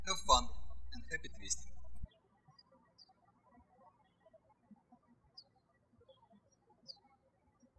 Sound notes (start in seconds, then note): 2.6 birds chirping